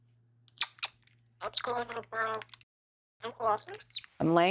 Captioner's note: parrot talking